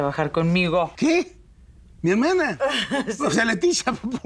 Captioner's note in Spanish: Ríe